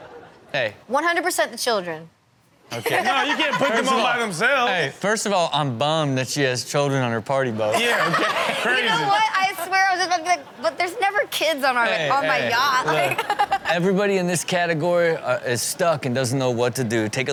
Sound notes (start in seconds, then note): 7.7 audience laughing